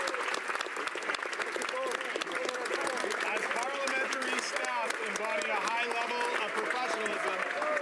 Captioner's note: applause